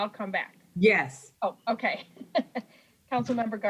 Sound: chuckles

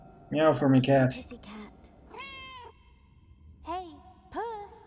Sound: cat meows

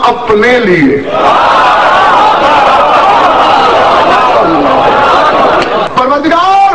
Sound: audience cheers and shouts enthusiastically

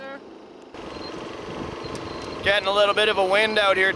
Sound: engine roars

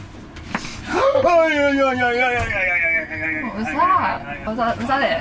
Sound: shouting in pain

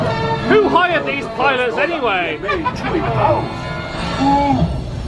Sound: laughing

